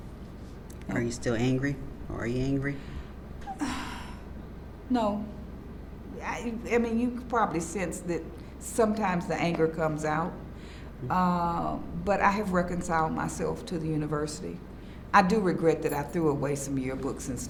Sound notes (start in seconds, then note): 3.4 sighs